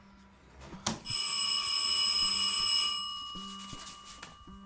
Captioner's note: doorbell rings